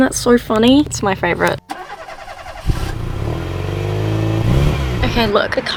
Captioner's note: car starting sounds